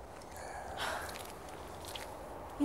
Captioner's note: Caroline sighing